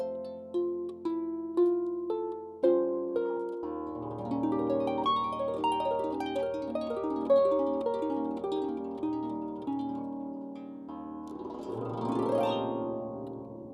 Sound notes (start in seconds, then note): none